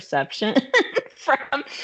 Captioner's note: laughing